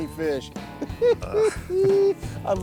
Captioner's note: giggles